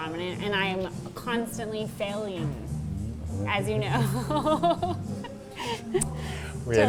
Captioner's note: laughing